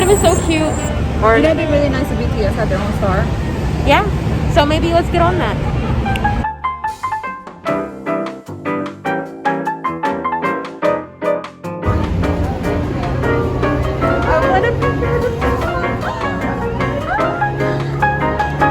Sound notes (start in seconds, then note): 17.5 gasp in shock of how big he was